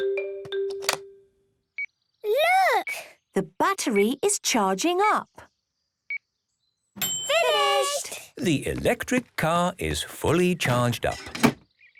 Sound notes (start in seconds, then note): 0.7 clicks; 1.9 meter beeping; 7.0 dings